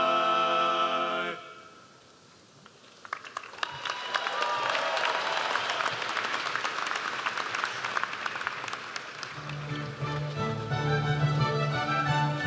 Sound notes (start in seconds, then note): 3.2 audience applauds; 9.3 stately music